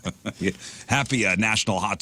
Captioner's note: laughing